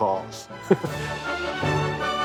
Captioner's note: laughs